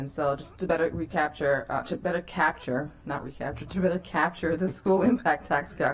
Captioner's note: laughter